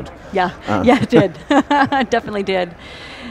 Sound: chuckles

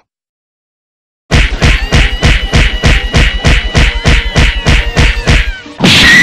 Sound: Ami screams

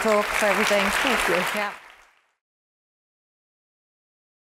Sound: applause

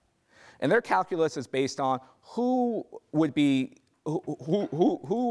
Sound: stammering

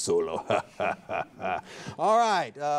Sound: announcer laughing

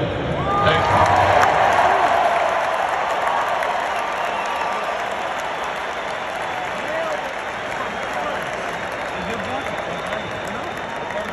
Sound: applause

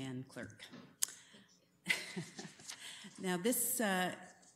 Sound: chuckles

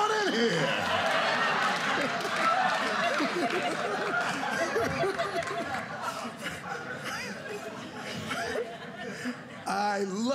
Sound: laughter

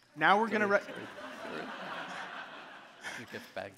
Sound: audience laughing

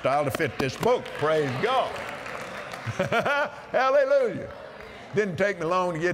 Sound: applause

